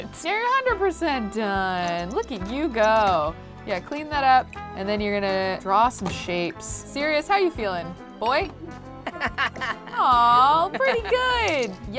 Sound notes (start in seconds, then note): 9.0 Sirius laughs